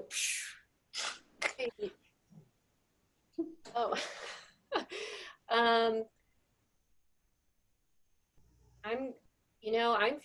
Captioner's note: laughter